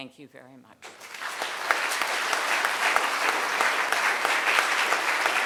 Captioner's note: crowd clapping